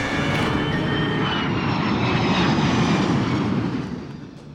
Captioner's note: aircraft noise